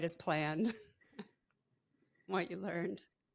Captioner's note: laughs